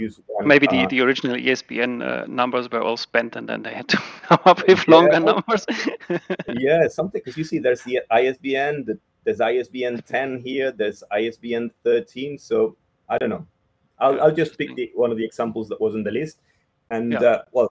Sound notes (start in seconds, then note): 6.3 both laughing